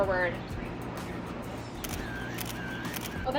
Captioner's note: camera clicking